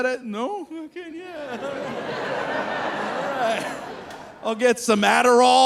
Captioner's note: audience laughing